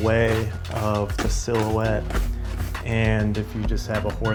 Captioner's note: brush scraping